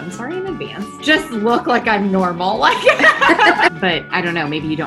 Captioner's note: laughs